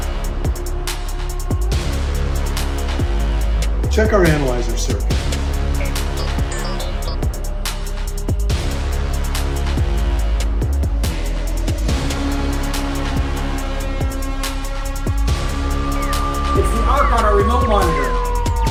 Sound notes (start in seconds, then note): 0.3 rousing atmospheric music; 5.8 device beeping; 8.1 rousing atmospheric music; 18.5 rousing atmospheric music